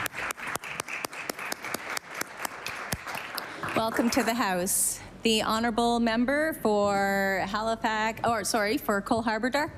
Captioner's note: applause